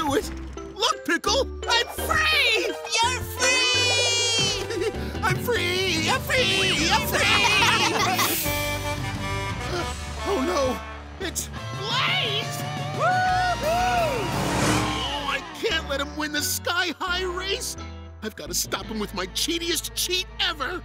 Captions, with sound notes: Look, Pickle! I'm free! You're free! [laughing] I'm free! I'm free! I'm free! [honking] Oh, no! It's... Blaze! Whoo-hoo! Oh, I can't let him win the Sky-High Race! I've got to stop him with my cheatiest cheat ever!